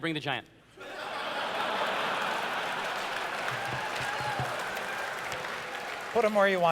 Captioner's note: laughter